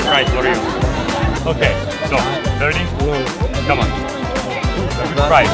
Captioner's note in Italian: Inglese